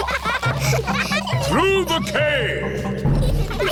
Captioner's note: echoing